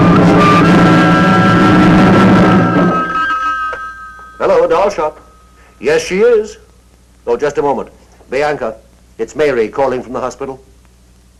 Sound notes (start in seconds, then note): 0.0 dramatic music; 3.5 phone rings